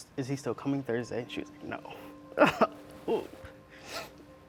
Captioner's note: crying; somber music playing